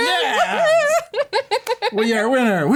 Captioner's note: laughter